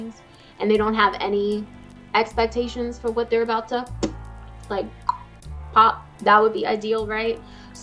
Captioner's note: pop